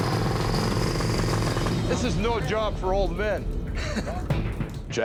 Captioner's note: chuckles